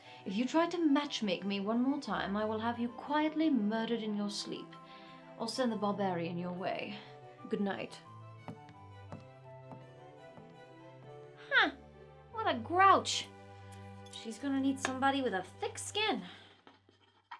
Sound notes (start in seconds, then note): 9.0 footsteps